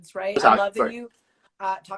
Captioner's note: stream glitches